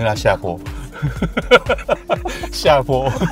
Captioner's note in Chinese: 哈哈哈哈; 哈哈哈哈哈哈